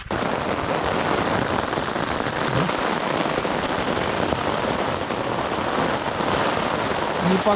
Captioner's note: rain